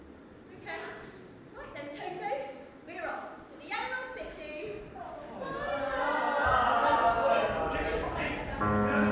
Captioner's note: everyone chatters and says goodbye